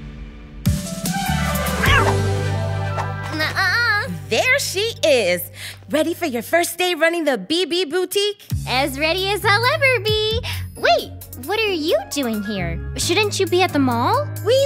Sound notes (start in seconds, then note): 0.7 bright music; 1.8 meows